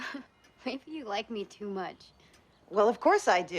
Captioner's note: laughs